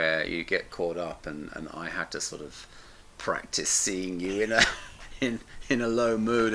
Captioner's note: chuckles